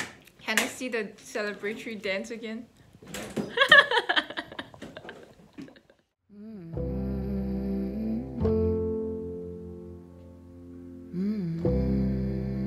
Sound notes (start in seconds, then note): 3.5 laughs; 6.4 chill music plays